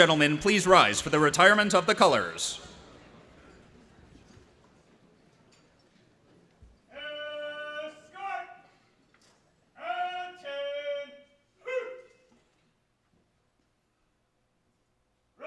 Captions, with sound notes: Ladies and gentlemen, please rise for the retirement of the colors. (Marine shouting orders)